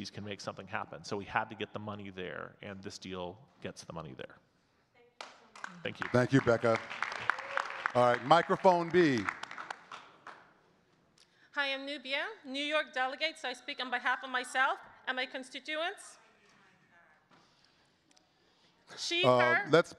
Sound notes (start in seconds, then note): 5.2 audience clapping